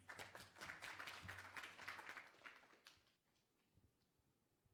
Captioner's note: applause